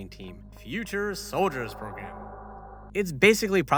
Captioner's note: futuristic voice